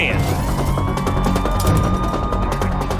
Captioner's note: sirens wailing